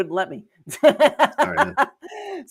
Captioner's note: laughs